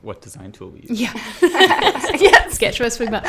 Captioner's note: all laughs